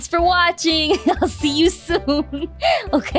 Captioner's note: inhale